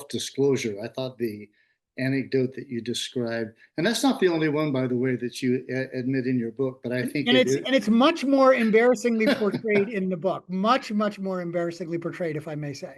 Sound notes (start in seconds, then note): 7.1 laughing